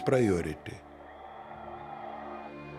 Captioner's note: crowd cheering